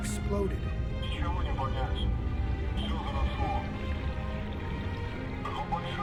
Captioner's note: diver speaking in foreign language